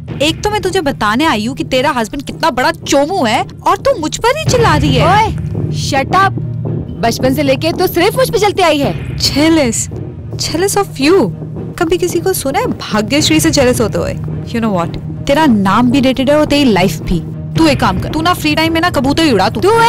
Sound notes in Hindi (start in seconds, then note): none